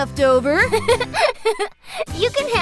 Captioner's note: laughter